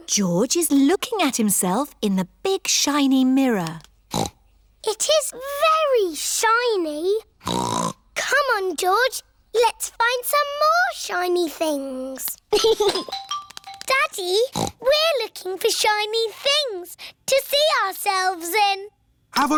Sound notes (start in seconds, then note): 4.1 snorts; 12.5 giggles; 14.5 snorts